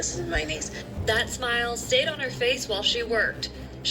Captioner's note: on TV